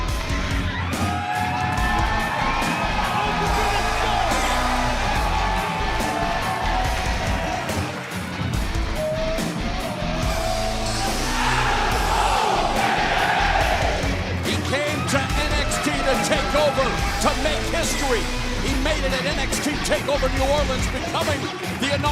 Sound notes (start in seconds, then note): 5.5 cheers and applause; 10.8 fans chanting